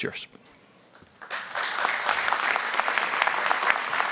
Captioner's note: applause